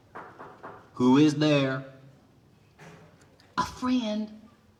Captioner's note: knocking